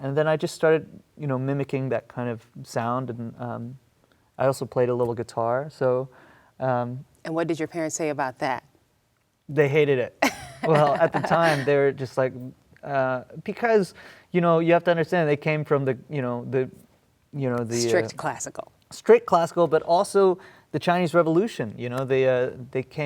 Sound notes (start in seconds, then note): 10.3 laughs